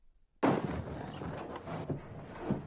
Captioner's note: explosion